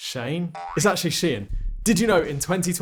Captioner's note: spring boings